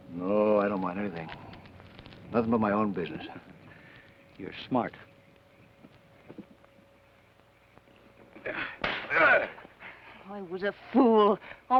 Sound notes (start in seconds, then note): 8.8 slap; 9.1 Theodore grunts